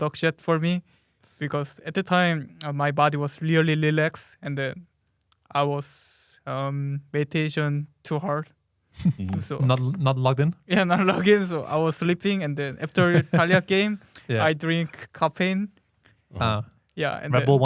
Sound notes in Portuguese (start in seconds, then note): 9.0 risos; 12.9 risos